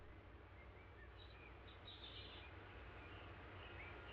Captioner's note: birds chirping